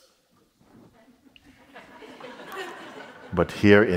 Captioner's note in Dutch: Gelach